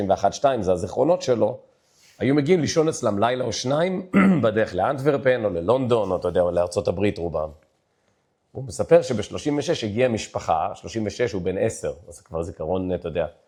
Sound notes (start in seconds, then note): 4.1 clears throat